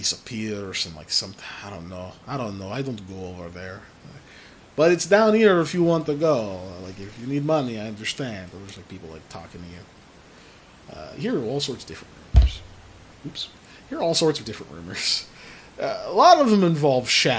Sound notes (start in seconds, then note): 12.3 mic hit